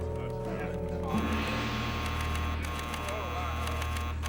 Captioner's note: beeping